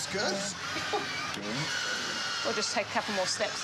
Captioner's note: chuckles